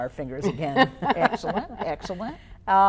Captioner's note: laughing